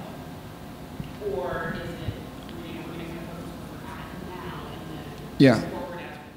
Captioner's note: faintly speaking